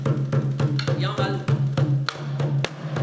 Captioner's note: non-english; steady drumming